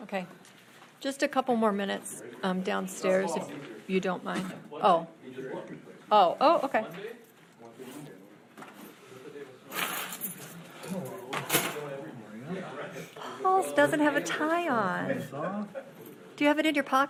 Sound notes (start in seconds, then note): 5.4 speaking faintly; 8.5 audience chattering; 15.6 speaking faintly